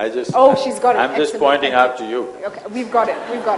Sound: laughter

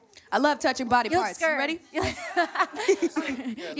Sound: laughs

